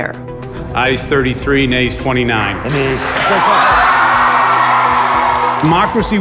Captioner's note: cheering